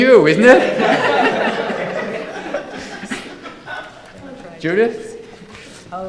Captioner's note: audience laughing